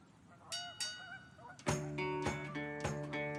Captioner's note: train bells; slow western music